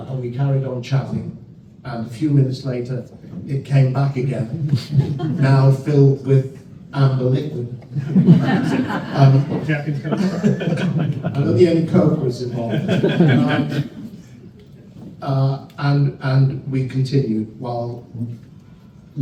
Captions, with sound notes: And we carried on chatting, and a few minutes later, it came back again, now filled with amber liquid. [laughter] And the ink coat was involved. And we continued while Lenny worked on it,